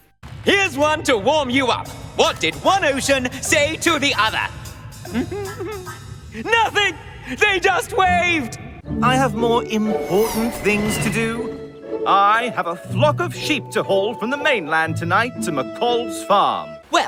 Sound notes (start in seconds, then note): 5.0 giggles